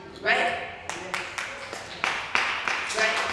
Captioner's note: applause